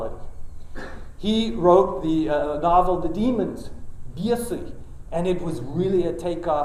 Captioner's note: russian